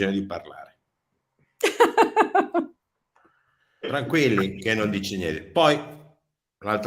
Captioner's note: laughs